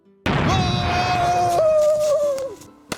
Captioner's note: explosion; screaming